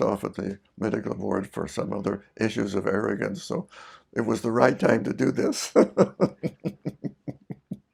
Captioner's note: laughs